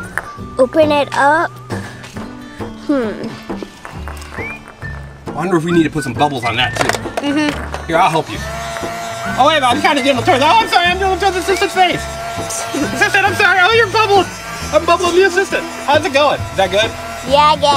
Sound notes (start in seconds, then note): 9.0 bubble wand buzzing; 9.8 teasing Assistant